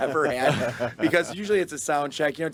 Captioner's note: group laughing